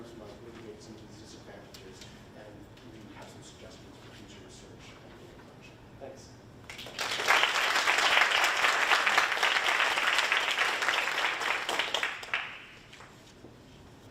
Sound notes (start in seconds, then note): 6.7 audience applauding